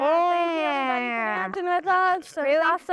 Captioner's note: chuckles